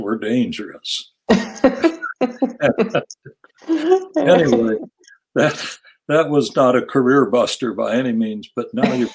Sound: laugh

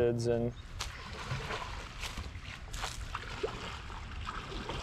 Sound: splashy footsteps

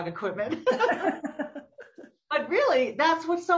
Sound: both laughing

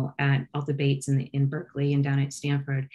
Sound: none

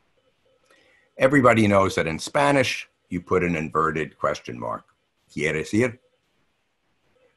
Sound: speaking Spanish

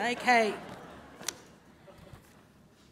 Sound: laughing

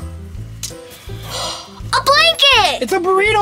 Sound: gasps

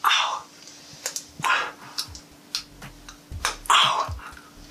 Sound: toothpick clicking

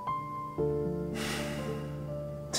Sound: inhale

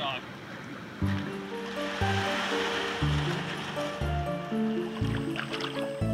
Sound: canoe dragging on sand; upbeat music

